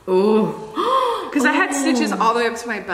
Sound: Trisha gasps

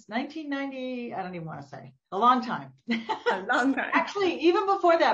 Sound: laughs

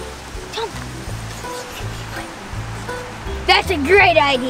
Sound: Smalls whispering

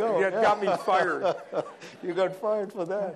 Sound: laughter

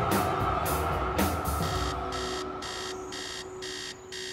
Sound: alarm clock blares

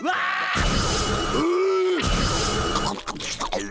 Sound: screaming; groaning

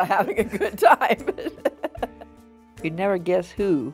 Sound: laughs

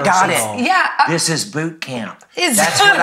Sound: laughs

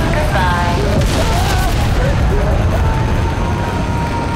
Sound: screaming

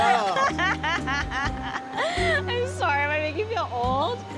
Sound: laughs

